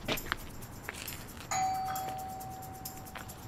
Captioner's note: doorbell rings